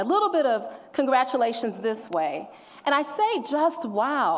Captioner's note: none